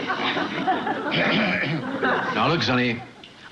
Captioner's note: clears throat